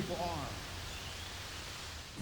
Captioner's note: birds chirping